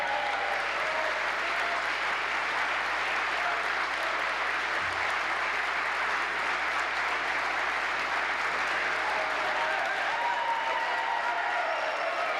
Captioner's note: applause